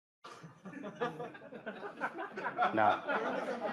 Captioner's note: laughter